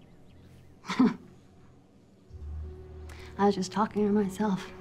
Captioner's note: chuckles